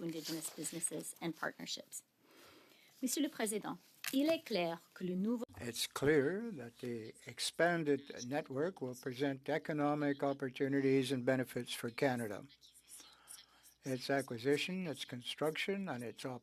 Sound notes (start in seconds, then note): 8.0 speaking French